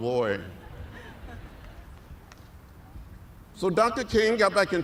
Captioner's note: laughter